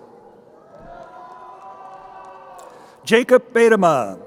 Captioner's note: crowd cheering